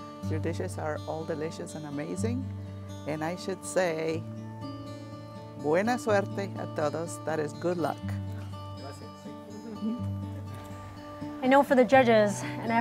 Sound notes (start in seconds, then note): 4.6 speaks in foreign language; 8.6 speaks in foreign language